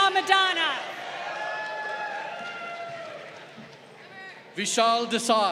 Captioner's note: crowd cheering